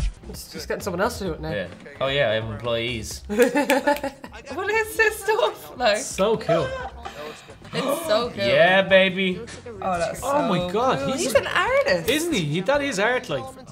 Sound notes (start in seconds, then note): 3.3 laughter; 3.4 snapping fingers